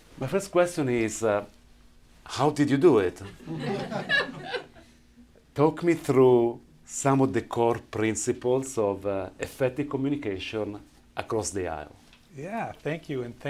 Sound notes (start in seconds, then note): 3.2 laughter